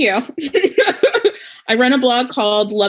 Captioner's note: laughs